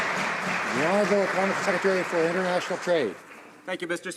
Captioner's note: some Applause